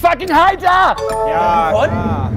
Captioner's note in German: Klingeln